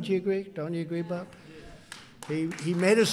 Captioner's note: applause